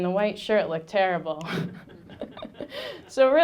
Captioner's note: laughing; audience laughing